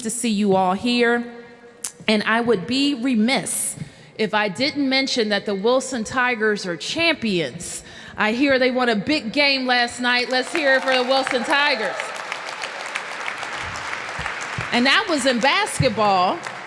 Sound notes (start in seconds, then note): 14.0 applause